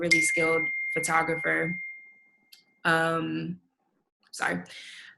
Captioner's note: computer dings